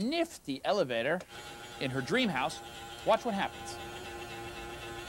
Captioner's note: buzzing